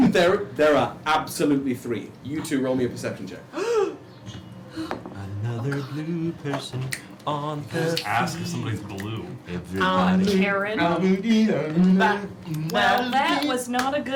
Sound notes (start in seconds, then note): 4.6 gasps